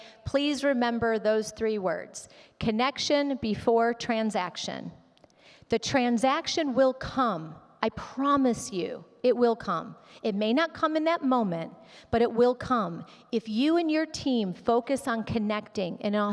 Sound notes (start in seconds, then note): none